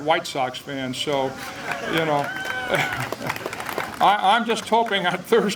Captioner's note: applause